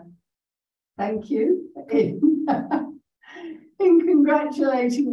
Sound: chuckles

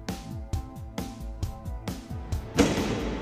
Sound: none

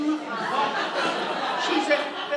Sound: audience laughs

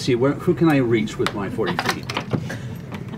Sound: laughter

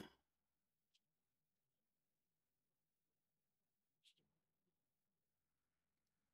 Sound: silence

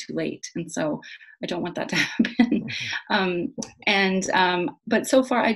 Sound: laughs

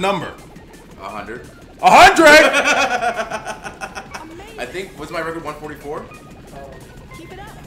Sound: laugh

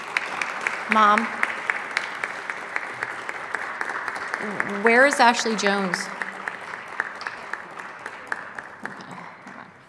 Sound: applause

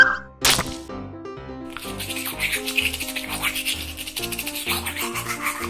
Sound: brushing teeth noise

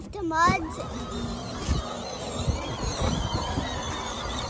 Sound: engine roars

